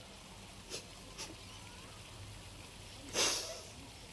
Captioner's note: girl cries